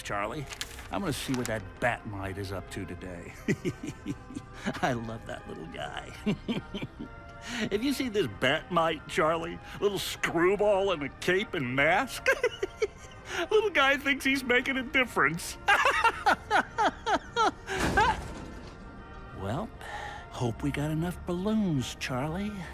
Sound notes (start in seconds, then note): 12.2 laughs; 15.6 laughs; 17.7 crash